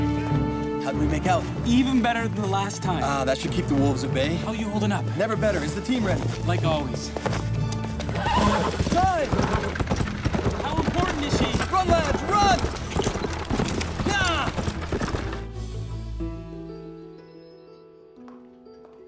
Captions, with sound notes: How'd we make out? Even better than the last time. That should keep the wolves at bay. How're you holding up? Never better. Is the team ready? Like always. [ horses neigh ] How important is she? Run, lads, run! Yah!